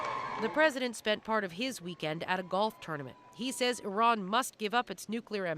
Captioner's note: cheers and Applause